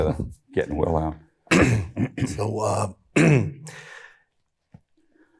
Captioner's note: clears throat